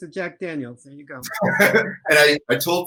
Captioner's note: chuckle